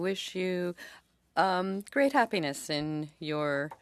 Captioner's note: speaking French